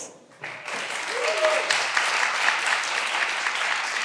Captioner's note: all applauding